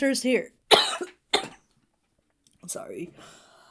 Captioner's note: Hana coughs